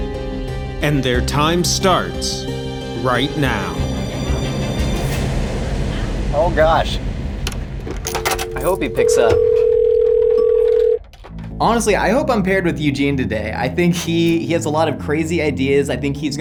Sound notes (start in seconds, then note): 4.3 dramatic music; 10.0 phone rings